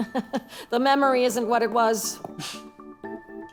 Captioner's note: laughs